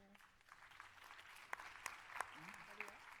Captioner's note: applause